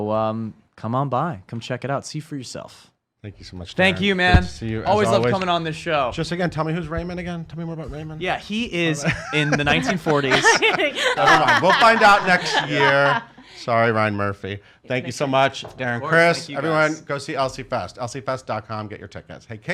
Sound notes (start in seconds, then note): 9.0 laughs